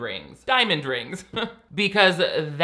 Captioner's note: laughs